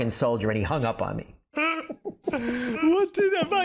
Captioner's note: chuckling